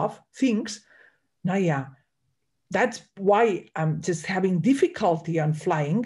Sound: speaks in German

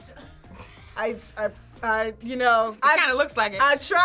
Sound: laughs

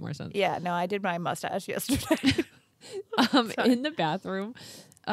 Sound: laughs

